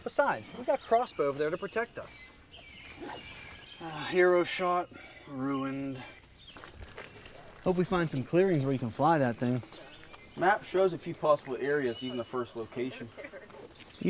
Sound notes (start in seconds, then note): 3.6 sigh